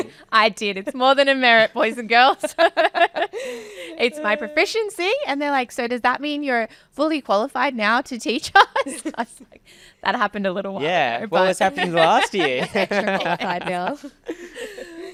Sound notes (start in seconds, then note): 2.1 laughing; 8.5 laughing; 11.4 laughing